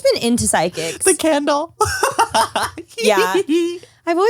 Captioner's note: laughs